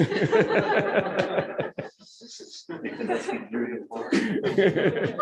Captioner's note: laughing